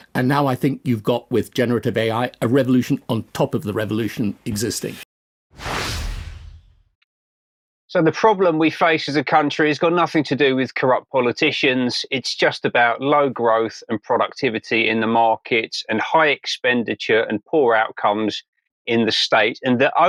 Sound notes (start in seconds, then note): 5.6 air whooshing